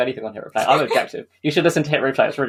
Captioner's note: laughs